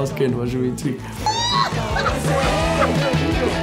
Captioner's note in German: lachen